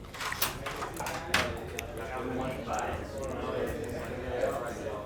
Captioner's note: chattering office